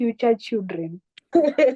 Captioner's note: laughter